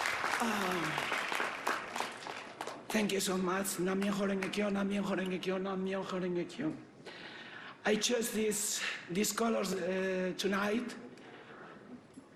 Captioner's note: applause